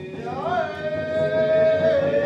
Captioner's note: none